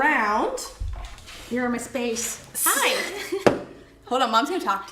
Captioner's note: laughs